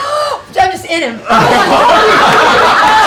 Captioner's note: gasps; laughter